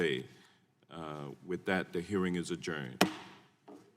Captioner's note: hammers gavel